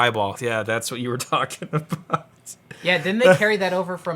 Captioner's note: laughs